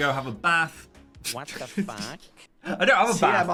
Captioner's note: automated Voice